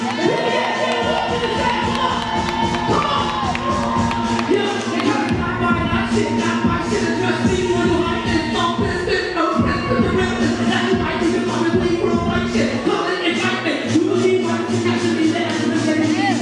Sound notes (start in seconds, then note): 2.4 applause